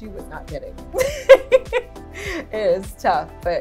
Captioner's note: laughing